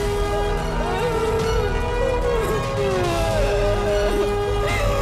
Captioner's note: Crying